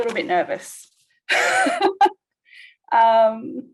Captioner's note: laughs